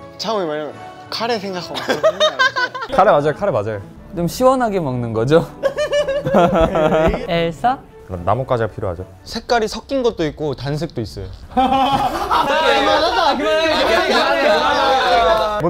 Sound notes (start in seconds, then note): 11.4 failed to hold laughter